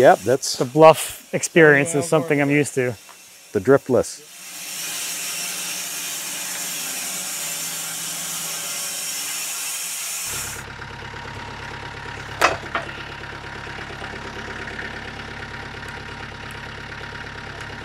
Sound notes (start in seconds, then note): 4.9 saw whirring; 10.3 engine revving